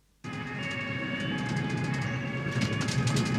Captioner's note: police sirens